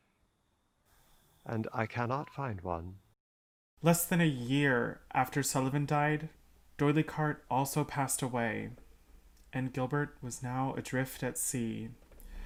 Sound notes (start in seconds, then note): none